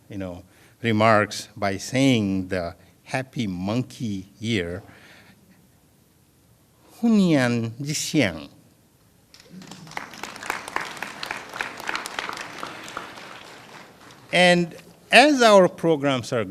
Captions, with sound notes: AND AGAIN, I WOULD LIKE TO END THIS PART OF THE, YOU KNOW, REMARKS BY SAYING THE HAPPY MONKEY YEAR. [ FOREIGN LANGUAGE ] [ APPLAUSE ]